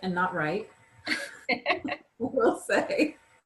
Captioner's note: laughs